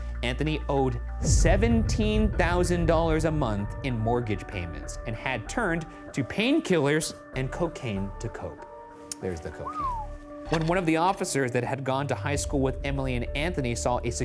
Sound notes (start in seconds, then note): 9.6 whistles